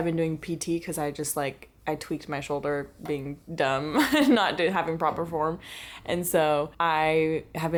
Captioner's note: laughter